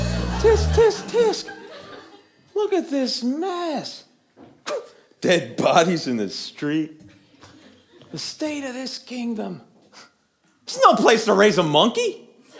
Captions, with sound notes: Tisk tisk tisk Look at this mess. *Sigh* Dead bodies in the street. The state of this kingdom, It's no place to raise a monkey.